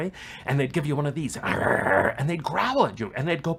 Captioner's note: growling